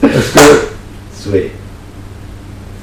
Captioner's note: laughing